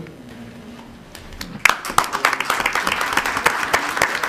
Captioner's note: applauding